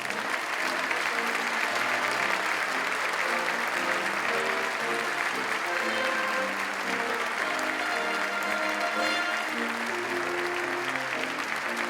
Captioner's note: applause